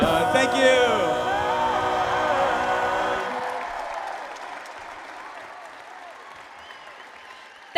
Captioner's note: applause